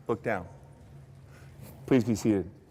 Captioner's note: none